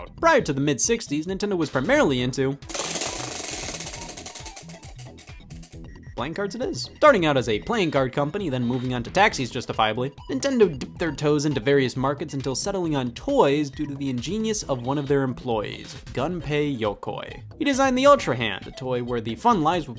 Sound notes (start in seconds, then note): 2.8 whirring